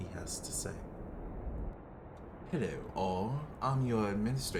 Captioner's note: wind intensifies